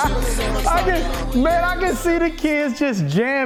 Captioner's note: laughing